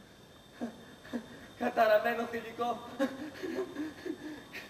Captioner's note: λυγμός